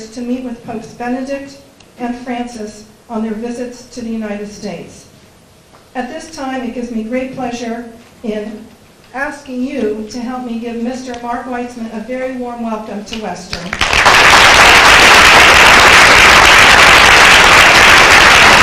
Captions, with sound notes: to meet with Popes Benedict and Francis on their visits to the United States. At this time, it gives me great pleasure in asking you to help me give Mr. Mark Weitzman a very warm welcome to Western. [APPLAUSE]